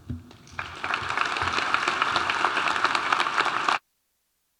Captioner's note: audience applauding